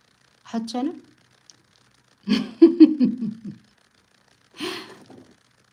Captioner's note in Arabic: ضحك